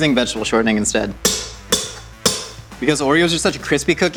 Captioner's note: spoon clanks